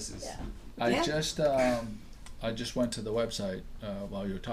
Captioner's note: voiceover